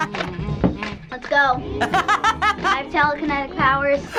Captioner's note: laughing; laughing